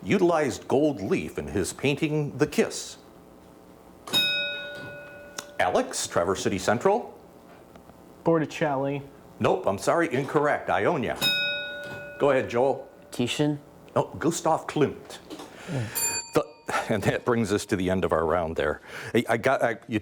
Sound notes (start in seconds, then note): 4.1 bell dings; 11.1 bell dings; 15.8 bell dings